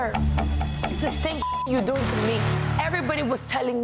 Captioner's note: beep